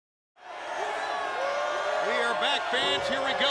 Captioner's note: crowd cheering